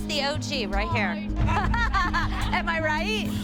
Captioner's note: laughter